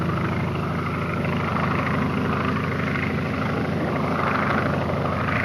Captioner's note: airplane engine roaring